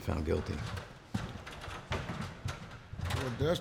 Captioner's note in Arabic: صوت قعقعة